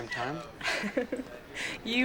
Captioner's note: laughs